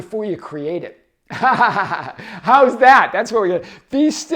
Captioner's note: chuckles